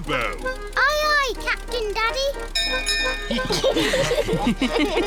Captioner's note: bell rings; all laugh